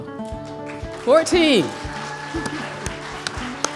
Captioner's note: cheers and applause